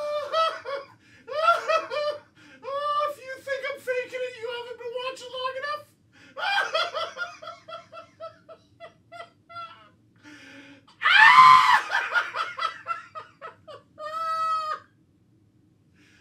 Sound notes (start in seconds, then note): 4.5 laughter, screaming, coughing